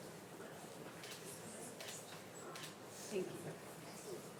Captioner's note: camera shutter clicking